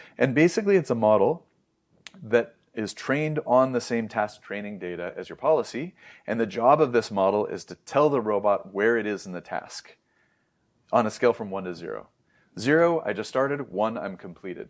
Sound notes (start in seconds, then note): 2.0 lips smack; 5.9 inhales